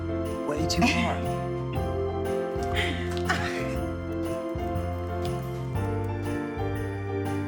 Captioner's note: upbeat Christmas music; Becca laughing; upbeat Christmas music